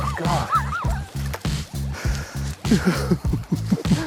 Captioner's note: laughing